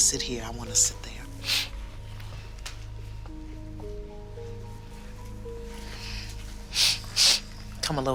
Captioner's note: sniffles